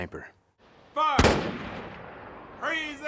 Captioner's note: rifles firing